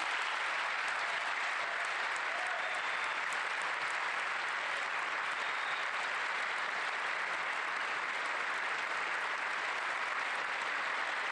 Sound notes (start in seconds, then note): 7.8 applause